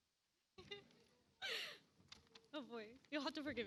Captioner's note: laughs